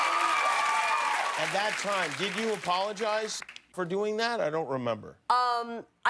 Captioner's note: cheers and applause